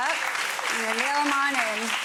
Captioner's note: audience applauding